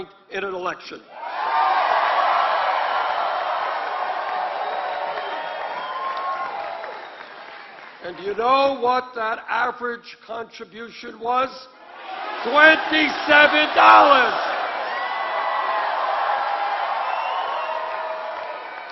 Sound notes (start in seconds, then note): 13.9 applause